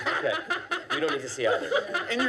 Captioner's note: laughter